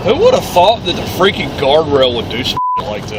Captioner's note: beeps